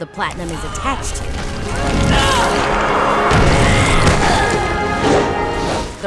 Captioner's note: grunting